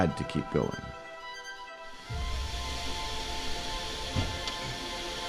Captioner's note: water hissing